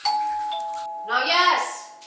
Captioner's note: doorbell rings